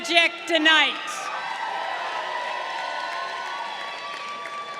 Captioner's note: crowd cheering